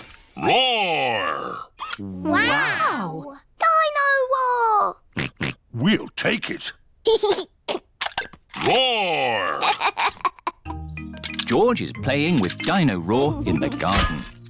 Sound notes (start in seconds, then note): 5.1 oinks; 6.9 giggles; 9.4 giggles